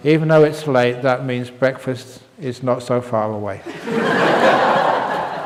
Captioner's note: laughter